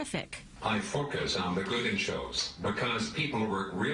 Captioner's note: voiceover